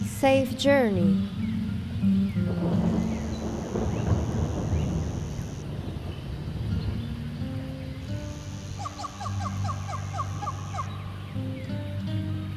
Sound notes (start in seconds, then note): 2.0 thunder cracks in the distance